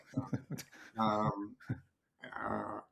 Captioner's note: chuckles